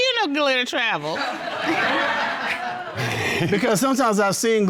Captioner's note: all laugh